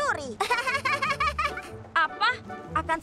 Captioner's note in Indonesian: Pinkfong tertawa